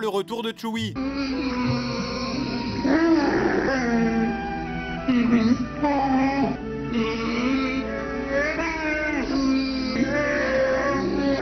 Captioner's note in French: cris de Wookies